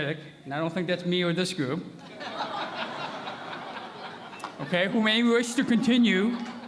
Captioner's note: laughter